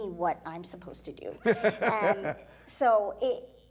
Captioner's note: laughing